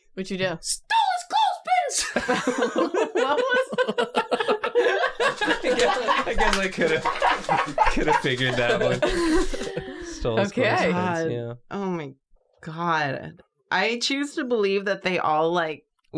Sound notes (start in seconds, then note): 2.1 laugh; 4.6 laughing